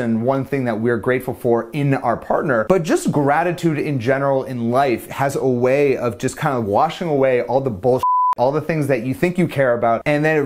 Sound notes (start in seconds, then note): 8.0 beep